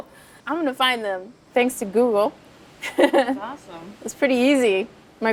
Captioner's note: laughing